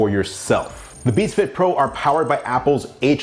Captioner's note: electronic trilling